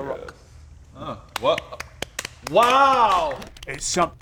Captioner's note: sarcastic applause